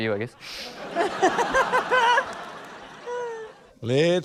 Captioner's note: laughter